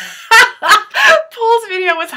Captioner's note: laughs